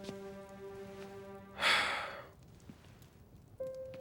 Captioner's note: Alan sighs